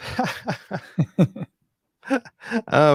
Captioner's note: laughing